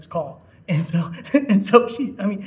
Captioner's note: chuckling